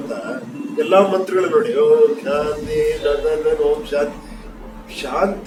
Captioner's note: chants